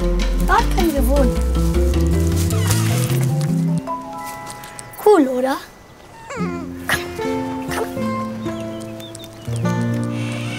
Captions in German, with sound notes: Dort können wir wohnen. (Quietschen) Cool, oder? (Winseln) Komm. Komm. (Quietschen)